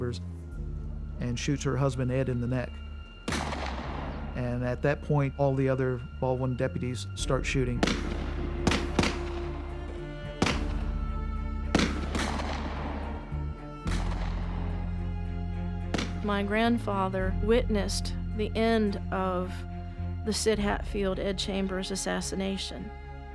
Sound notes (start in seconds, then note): 3.2 gunshot; 7.8 gunfire